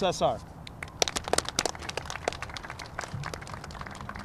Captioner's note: applause